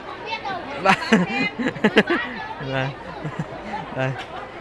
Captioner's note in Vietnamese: Tiếng cười